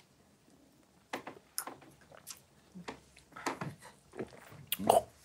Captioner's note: group swallowing shot